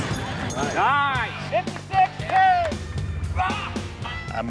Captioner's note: cheering